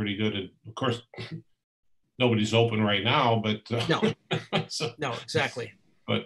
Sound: laughs

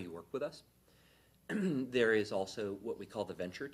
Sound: clears throat

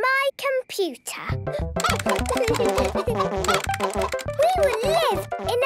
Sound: keyboard tapping; computer game chickens clucking

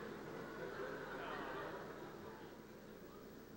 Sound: laughter subsides

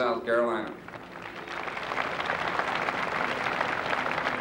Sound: applause

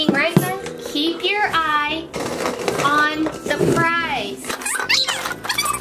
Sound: plastic bottles scraping; audio squeaking

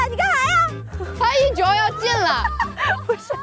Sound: laughing out loud

